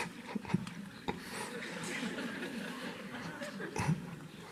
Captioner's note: Eckhart chuckles